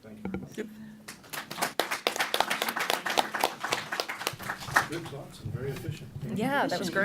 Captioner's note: applause